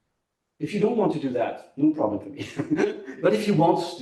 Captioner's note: laughs